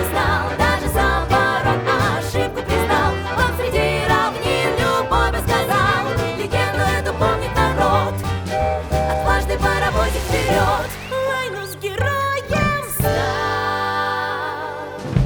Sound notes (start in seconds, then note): 0.0 female trio singing; 8.0 whistle toots!; 9.4 female soloist singing; 13.0 female trio singing